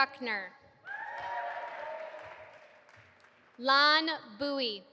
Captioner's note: audience applauding